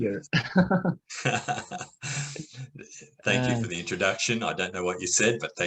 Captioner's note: Risada